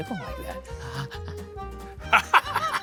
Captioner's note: coaxing; laughing